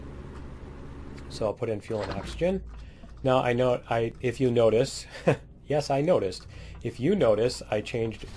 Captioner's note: laughs